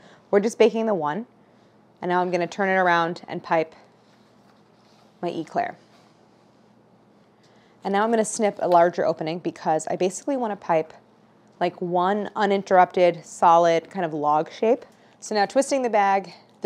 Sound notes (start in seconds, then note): none